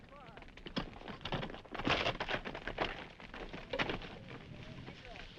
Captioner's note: horse hooves clopping